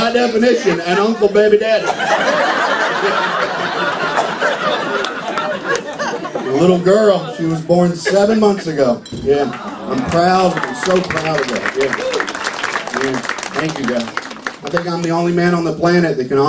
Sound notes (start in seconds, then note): 12.5 applause